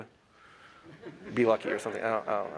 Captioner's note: laughter